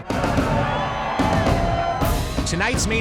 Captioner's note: people cheering